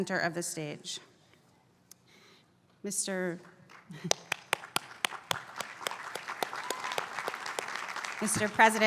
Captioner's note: applause